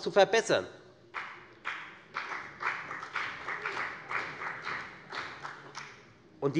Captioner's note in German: Beifall bei der FDP